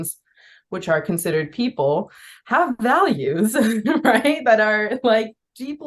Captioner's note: laughs